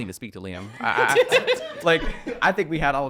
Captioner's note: laughing